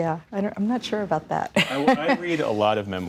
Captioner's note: laughter